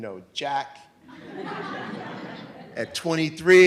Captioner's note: audience laughs